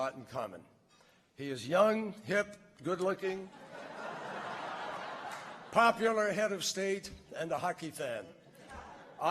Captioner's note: laughter